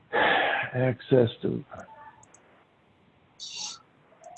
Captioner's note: clicking